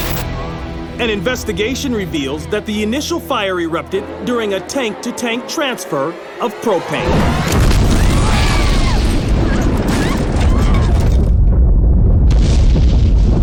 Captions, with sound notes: AN INVESTIGATION REVEALS THAT THE INITIAL FIRE ERUPTED DURING A TANK-TO-TANK TRANSFER OF PROPANE. [ WOMAN SCREAMS ]